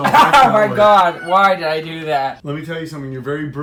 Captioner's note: riendo